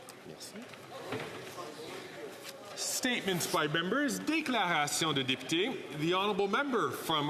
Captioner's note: speaking French